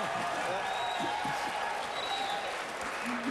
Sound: applause

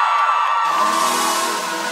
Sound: applause

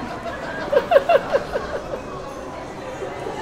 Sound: laughs

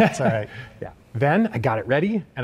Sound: chuckling

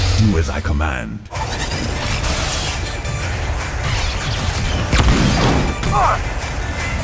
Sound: lightsabers crackling; grunts

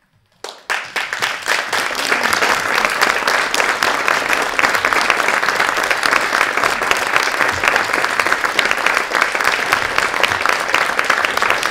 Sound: applause

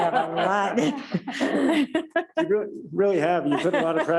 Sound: laughing

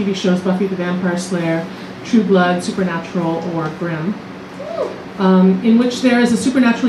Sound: woo from audience

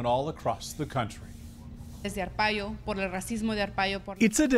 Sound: speaking Native Language

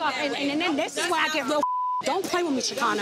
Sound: beep

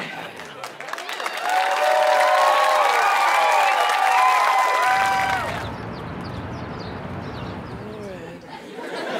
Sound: audience clapping

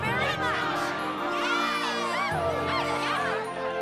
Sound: everyone cheers

